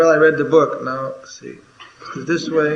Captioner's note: laughter